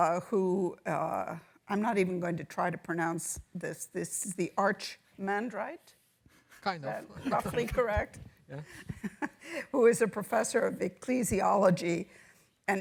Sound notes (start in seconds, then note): 7.0 laughs